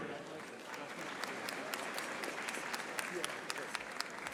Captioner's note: audience applauding